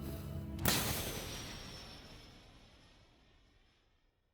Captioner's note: bow snaps